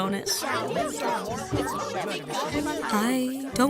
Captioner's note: Uninvitationals shout and argue